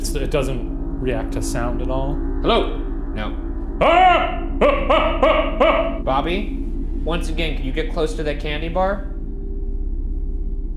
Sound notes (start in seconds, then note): 4.3 shouting